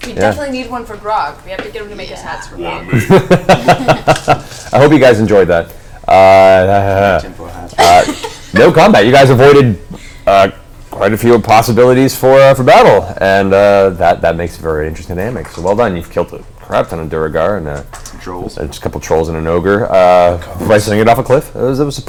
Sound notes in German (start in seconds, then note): 2.7 lacht